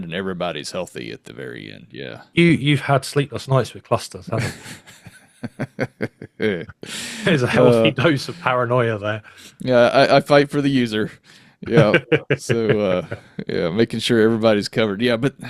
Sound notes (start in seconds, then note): 7.3 laughs; 11.6 laughs